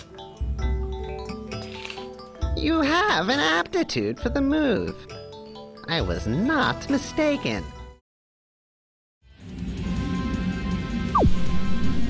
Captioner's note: game audio